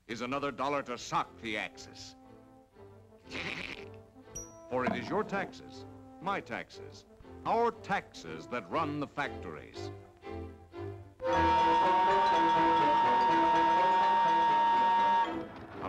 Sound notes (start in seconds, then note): 3.2 giggles; 11.2 whistle Blows